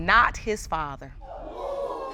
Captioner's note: audience exclaiming